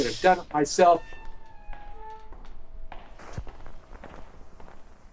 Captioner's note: recording whirring